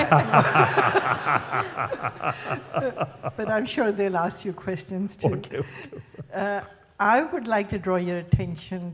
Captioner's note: laughs